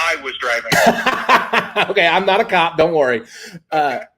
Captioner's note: laughs